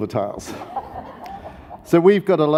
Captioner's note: audience laughs